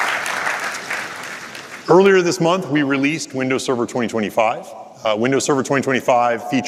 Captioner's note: applause